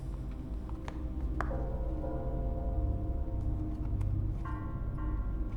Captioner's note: suspenseful music; shoes tapping